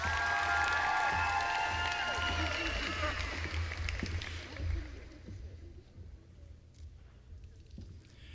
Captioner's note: applause